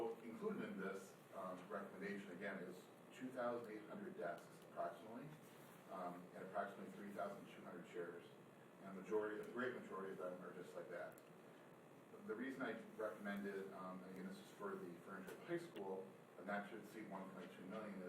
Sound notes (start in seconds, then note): none